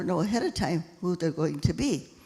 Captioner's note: none